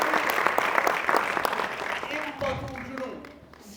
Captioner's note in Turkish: alkış